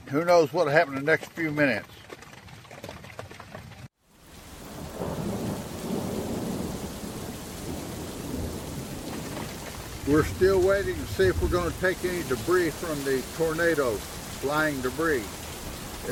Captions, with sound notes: Who knows what'll happen in the next few minutes. (thunder rumbling) (rain pattering) We're still waiting to see if we're going to take any debris from the tornado, flying debris.